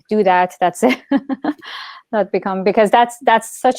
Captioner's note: laughs loudly